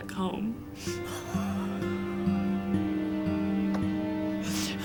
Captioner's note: sobbing